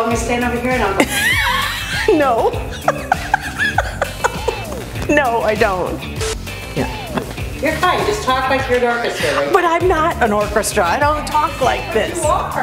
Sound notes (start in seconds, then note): 1.0 laughing